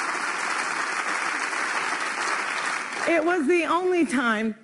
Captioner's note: applause